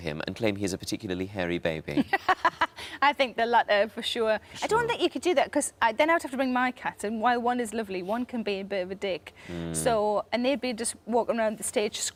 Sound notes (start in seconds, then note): 2.2 laughs